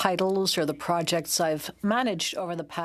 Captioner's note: speaking in French